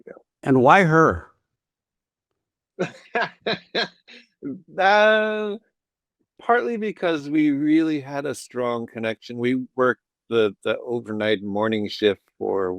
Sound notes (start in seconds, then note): 2.8 laughs